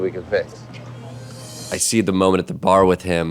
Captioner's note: ringing